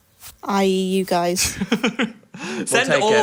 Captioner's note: chuckling